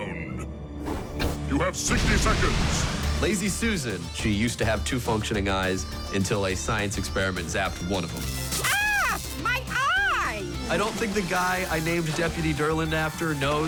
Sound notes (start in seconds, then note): 8.2 electricity crackles